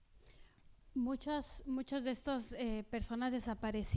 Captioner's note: speaking spanish